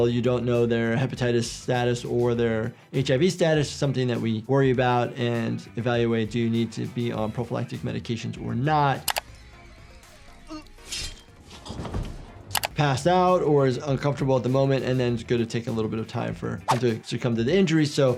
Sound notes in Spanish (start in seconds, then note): 9.0 clics de computadora; 10.9 hombre con camisa negra gimiendo